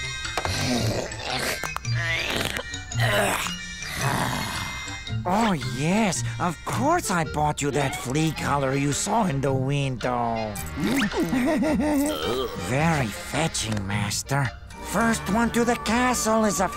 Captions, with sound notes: [cracking] [groaning] Oh, yes, of course, I bought you that flea collar you saw in the window. [chuckles] Very fetching, master. First one to the castle is a filthy,